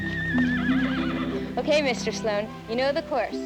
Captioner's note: horse whinnies